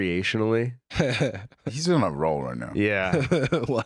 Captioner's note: chuckles; laughing